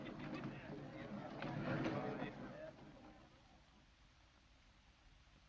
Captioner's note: crowd chatters